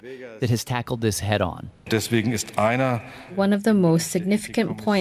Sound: speaking German

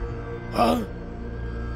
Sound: gasps

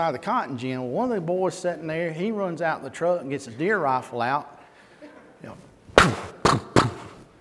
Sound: shotgun noises

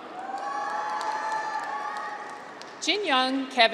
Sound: graduates cheer

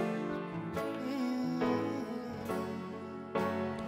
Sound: hums

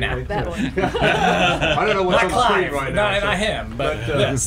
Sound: general laughter, crosstalk

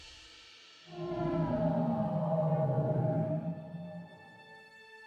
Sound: graphic whooshing

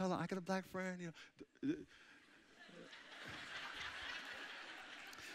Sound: audience chuckling

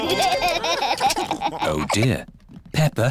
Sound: laughter

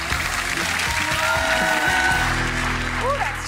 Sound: clapping and cheering

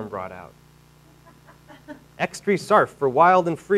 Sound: audience laughing

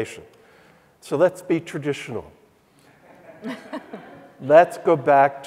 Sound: audience chuckling

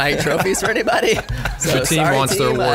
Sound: scattered laughs

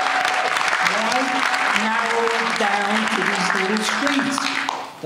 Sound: applause

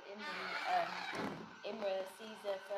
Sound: squeaking noise

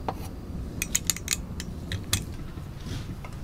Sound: clacking

